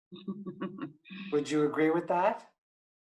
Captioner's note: lady laughs